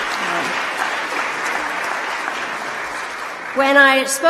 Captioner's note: applause